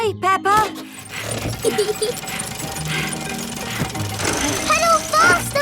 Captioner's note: mummy pig panting; peppa laughing